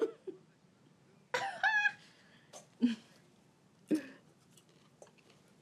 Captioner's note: Kimberly and Alice giggle